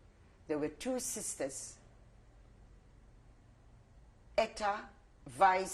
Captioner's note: pauses for 3 seconds